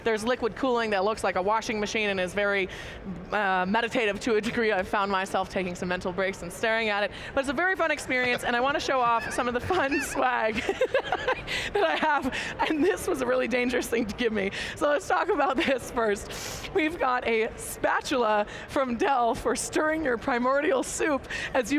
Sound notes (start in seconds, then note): 8.9 laughs; 9.1 panelists chuckling